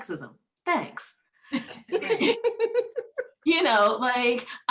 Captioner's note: laughing